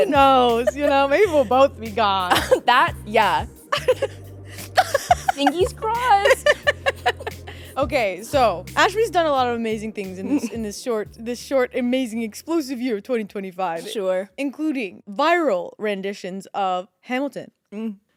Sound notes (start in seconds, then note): 4.5 Courtney laughing; 6.6 both laughing